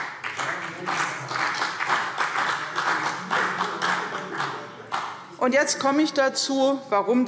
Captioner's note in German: Beifall CDU und BÜNDNIS 90/DIE GRÜNEN